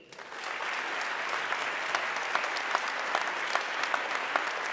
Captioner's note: audience clapping